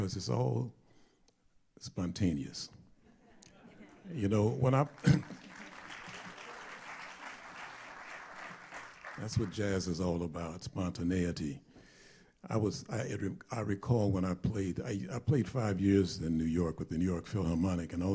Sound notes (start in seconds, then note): 4.6 applause